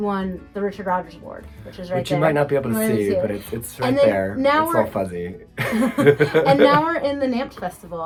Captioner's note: laughs